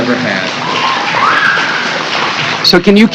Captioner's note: cheers and applause